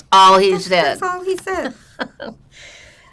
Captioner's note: laughing; laughing